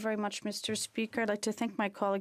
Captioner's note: speaking French